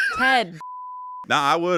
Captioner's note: beep